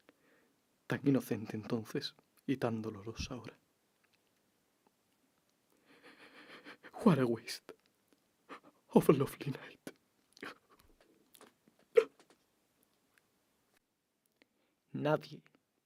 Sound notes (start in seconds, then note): 5.9 sobbing